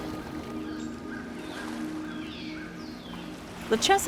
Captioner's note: birds chirping